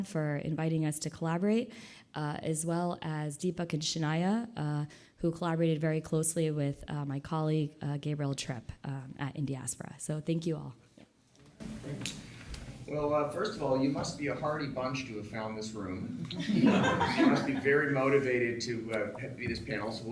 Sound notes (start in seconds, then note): 16.2 audience laughs